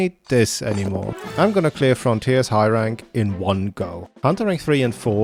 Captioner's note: footsteps